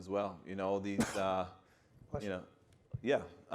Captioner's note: panelist sneezes